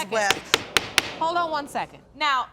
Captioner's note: gavel banging